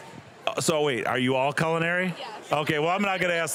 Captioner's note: laughing